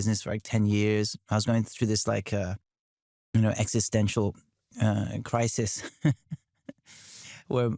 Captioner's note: chuckles